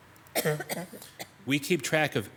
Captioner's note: an audience coughing